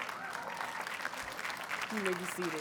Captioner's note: audience cheers and applauds